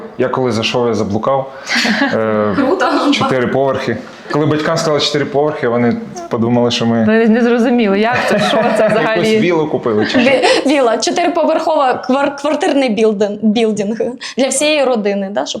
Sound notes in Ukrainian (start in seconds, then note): 8.1 сміх